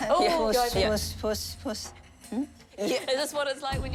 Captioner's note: laughs, speaks cantonese